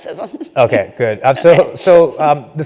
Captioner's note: laugh